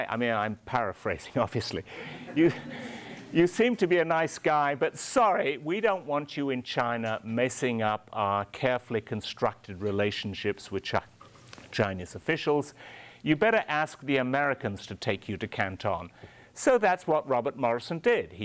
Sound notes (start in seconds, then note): 2.0 audience laughing